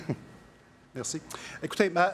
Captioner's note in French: rires